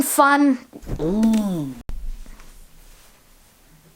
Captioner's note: moans